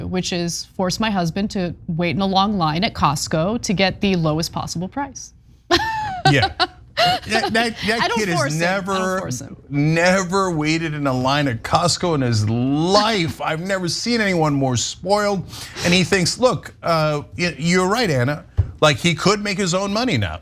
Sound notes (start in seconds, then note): 5.8 laugh